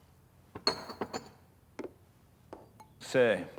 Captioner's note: glass clinks